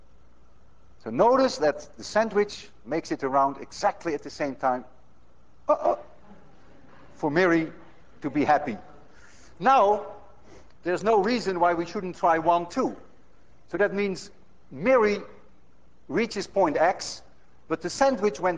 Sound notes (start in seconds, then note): 5.7 exclaims